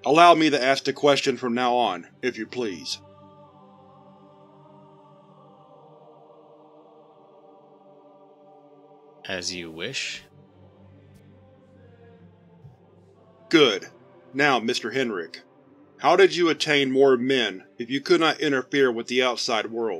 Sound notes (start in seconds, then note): 5.5 long, tense silence